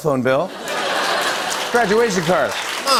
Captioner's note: laughter and applause